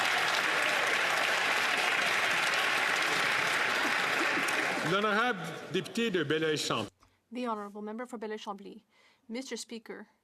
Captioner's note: some Applause